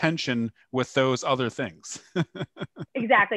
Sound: laughter

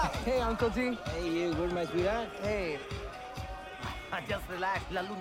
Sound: speaking in Punjabi

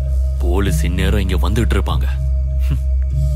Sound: chuckles

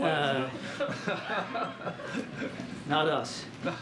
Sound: laughter

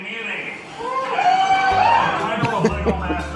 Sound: people cheer

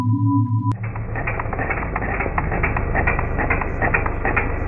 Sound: wheels clanking loudly

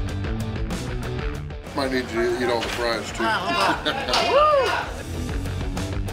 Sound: haha

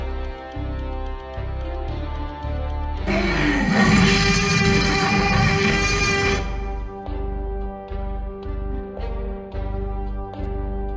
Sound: dinosaur roars

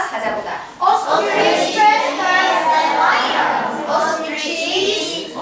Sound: speaking foreign language; chattering

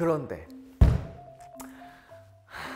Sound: thud

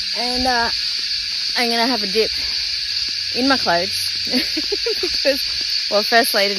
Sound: giggles

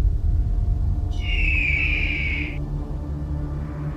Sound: eagle Scream

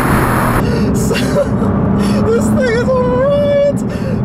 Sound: catching breath

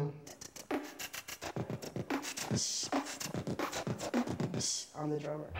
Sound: beatboxing

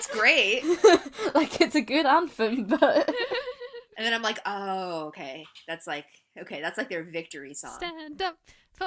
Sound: laughter

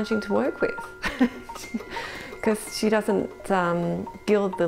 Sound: laughs

